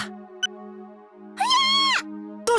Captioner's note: panicked cry